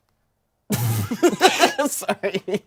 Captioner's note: everyone laughs